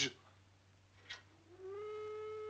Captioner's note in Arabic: صافرة البداية